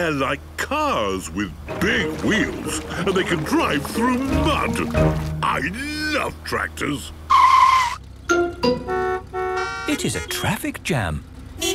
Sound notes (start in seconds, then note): 7.1 tires screeching, horns honking